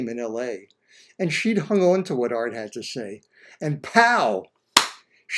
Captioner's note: clap